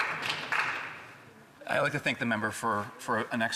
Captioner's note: speaking indigenous language